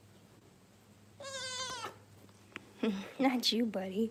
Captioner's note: goat bleats